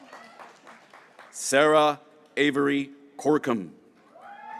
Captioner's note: graduates cheering